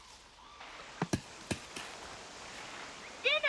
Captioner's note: coconuts thudding